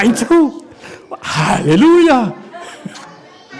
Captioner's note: laughs